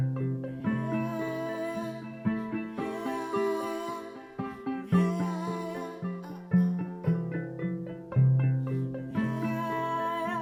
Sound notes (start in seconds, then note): 1.3 chanting in foreign language